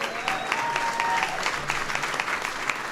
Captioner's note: applause